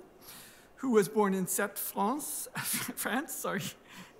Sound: french accent

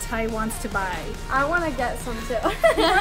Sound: laughing

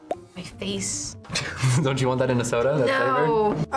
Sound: laughs

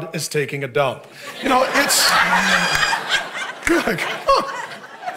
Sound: congregation laughing

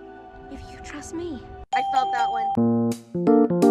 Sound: ding

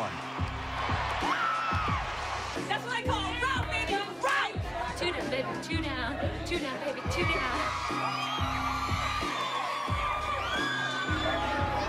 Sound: cheering

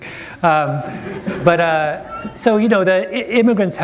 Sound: laughter

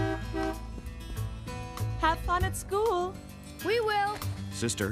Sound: honking

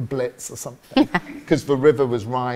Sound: susan laughs

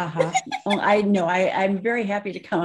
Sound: laughs

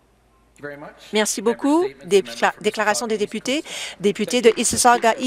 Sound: applause

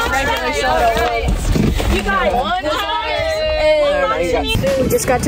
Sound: everyone excitedly saying yay

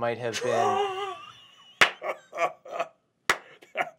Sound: laughs

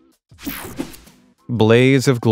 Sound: screen whooshing

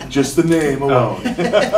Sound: laughter

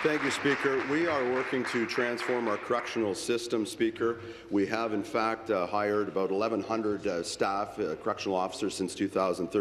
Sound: applause

